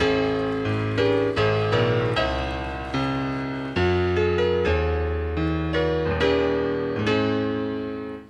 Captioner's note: applause